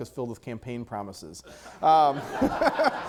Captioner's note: audience laughter